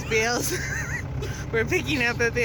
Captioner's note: laughter